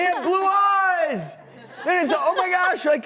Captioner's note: laughter